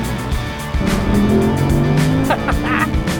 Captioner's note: bwaaaaaaaaaaaah